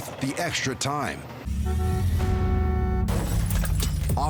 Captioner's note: car horn honking